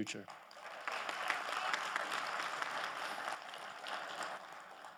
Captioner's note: audience applauding